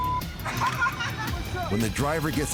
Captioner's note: laughter